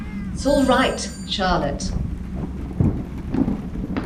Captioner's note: bell rings